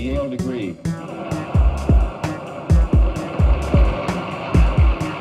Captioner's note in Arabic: تصفيق الجمهور